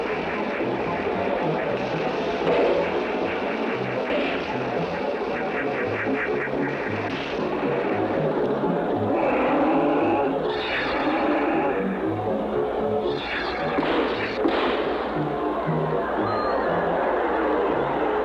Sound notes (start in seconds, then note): 2.1 donk!; 9.0 roar, Blast!; 13.4 pop! Pop!; 14.8 cheering